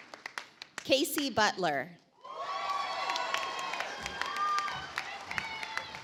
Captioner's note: audience applauds